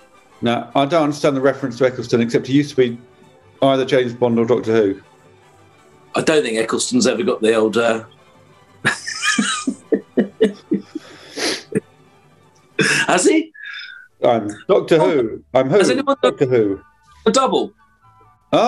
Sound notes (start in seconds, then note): 8.8 giggling